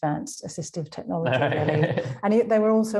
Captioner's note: laughing